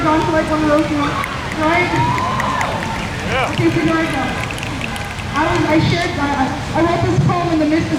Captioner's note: crowd snaps intensely